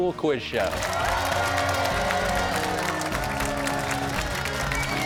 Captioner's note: cheers and applause